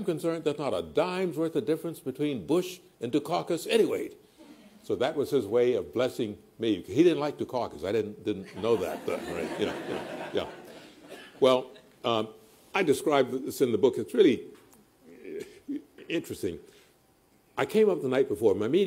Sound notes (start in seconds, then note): 8.4 laughter